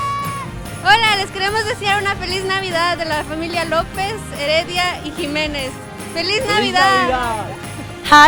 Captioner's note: speaking in spanish